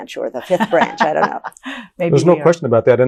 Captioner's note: laughs